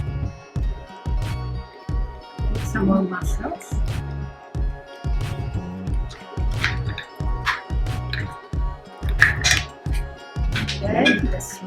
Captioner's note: tongs clatter against mussel shells